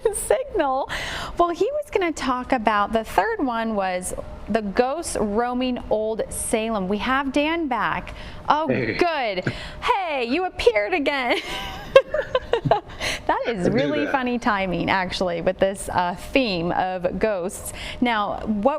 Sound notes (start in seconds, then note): 6.3 laughter